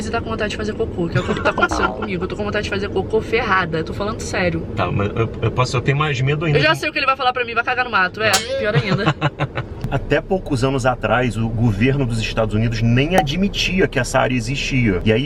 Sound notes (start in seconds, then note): 8.7 laughs